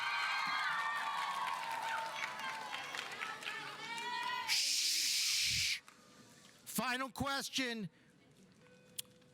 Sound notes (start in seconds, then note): 0.0 audience cheering; 0.0 audience applauding; 3.7 students yelling